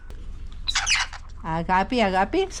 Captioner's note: birds chirping; speaking Cyppriot